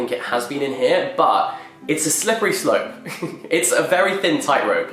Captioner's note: laughs